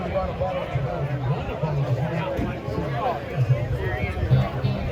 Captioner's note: crowd talking; band playing music